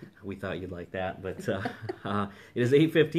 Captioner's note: laughing